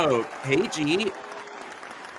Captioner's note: audience cheering